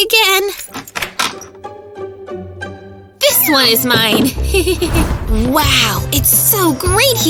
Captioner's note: nervous laughter